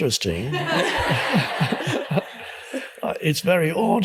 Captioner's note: audience laughs